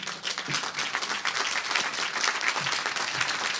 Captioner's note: applause